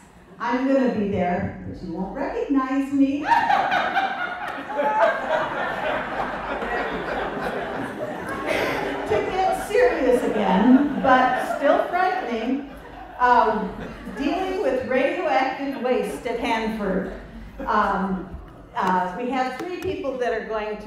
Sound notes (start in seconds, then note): 3.0 laughter